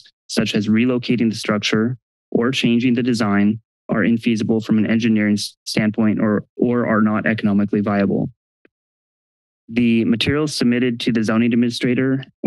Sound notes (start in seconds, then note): 8.5 silence